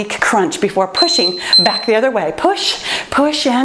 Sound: timer beeping

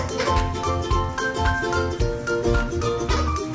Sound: toy squeaks

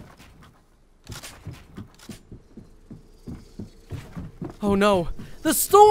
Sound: gun clicks

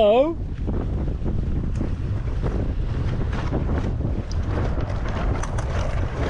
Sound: wind blowing; sail fluttering

